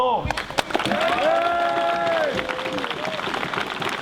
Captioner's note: cheering